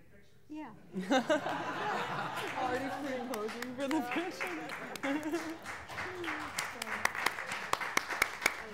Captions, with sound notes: Congratulations (Applause) (Laughter) (Applause)